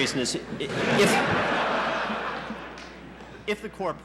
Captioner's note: laughter in the courtroom